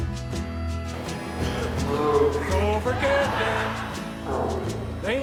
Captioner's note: laughter; moose call